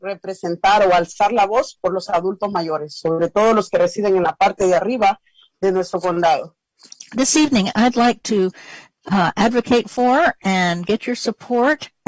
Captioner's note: speaking spanish